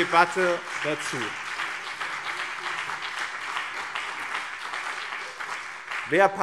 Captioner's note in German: Beifall BÜNDNIS 90/DIE GRÜNEN und CDU